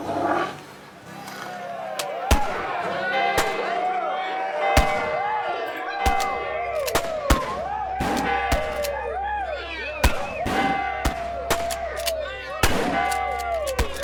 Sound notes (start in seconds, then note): 2.0 guns firing; 2.2 gang cheering; 3.8 school bell ringing; 6.0 guns firing; 7.4 gang cheering